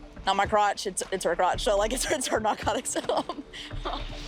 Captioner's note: laughs